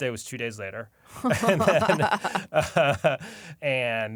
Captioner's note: laughter